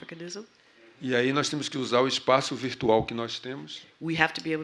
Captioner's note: speaking portuguese